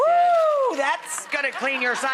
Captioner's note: Rachael whoops